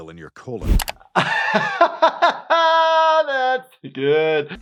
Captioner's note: doctor laughs